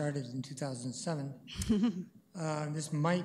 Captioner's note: chuckles